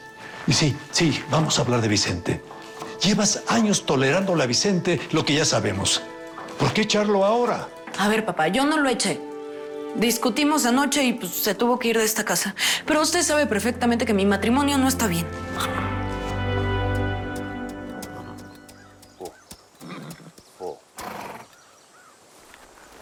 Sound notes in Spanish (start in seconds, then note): 20.9 Relincho